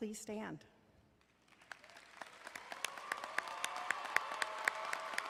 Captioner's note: crowd applauding